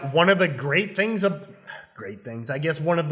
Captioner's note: exhales loudly